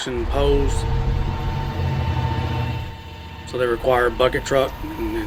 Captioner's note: bucket Lift Noise